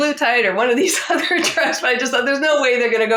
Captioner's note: laughs